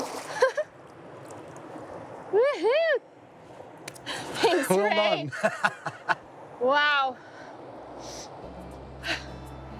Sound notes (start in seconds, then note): 0.3 laughs; 6.0 laughs